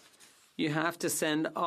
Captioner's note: speaking French